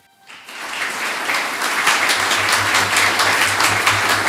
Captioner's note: audience clapping